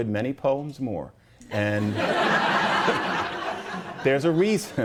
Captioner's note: laughter